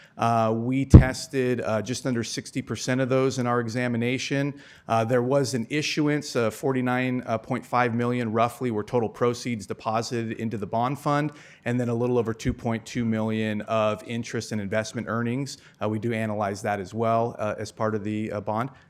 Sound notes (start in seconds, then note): none